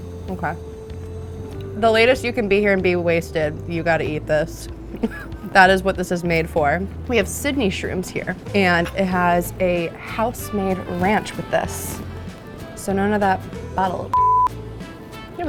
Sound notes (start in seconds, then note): 5.0 laughs; 14.1 beep